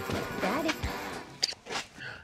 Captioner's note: smooch